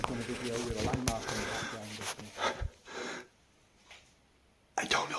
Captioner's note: camera rustles